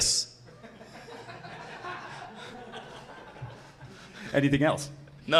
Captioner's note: audience laughing